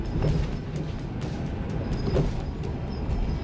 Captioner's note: RV jostling